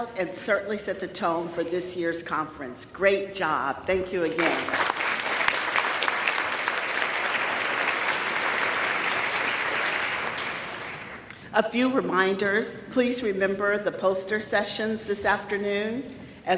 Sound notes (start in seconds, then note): 4.3 audience claps